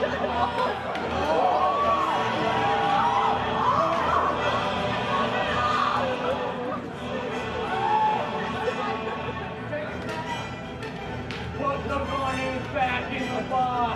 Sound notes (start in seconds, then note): 0.0 cheers; 8.2 crowd Commotion